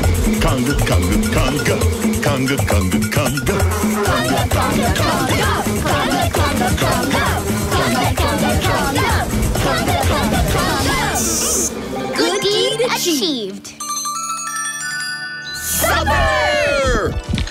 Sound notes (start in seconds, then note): 10.6 bees buzzing; 13.6 bell ringing